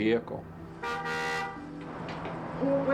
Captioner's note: honk